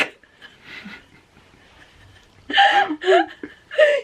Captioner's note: both laughing